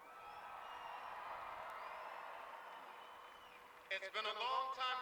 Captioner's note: cheers